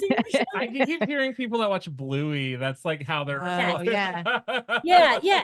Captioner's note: laughs